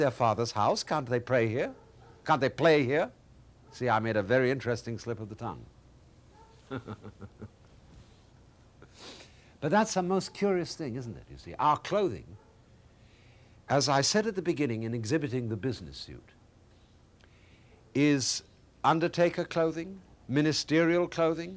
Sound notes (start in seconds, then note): 6.6 chuckles